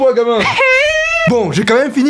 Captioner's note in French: Pleures